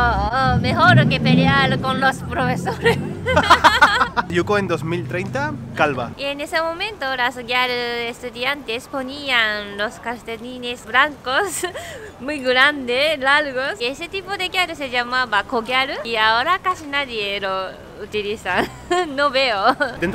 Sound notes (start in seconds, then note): 2.7 laughter